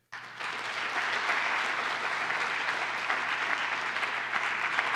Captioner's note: applause